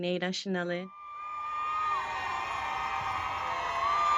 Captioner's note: crowd cheering